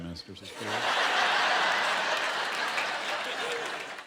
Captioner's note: laughter